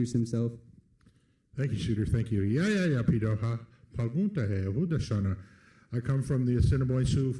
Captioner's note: foreign language